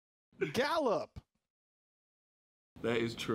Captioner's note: laughing